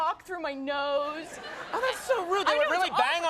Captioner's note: crowd laughs